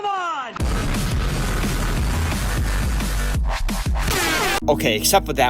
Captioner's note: Loud MLG noises